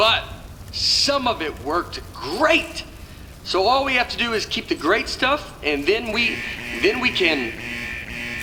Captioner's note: sirens Begin Going off